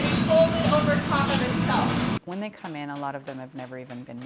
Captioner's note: machine thudding